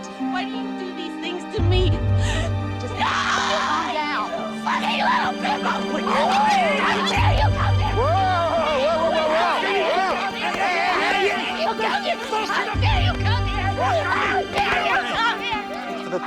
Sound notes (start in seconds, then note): 3.0 screams violently; 10.1 angry shouting